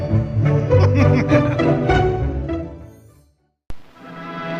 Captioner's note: whimsical music; chimes ringing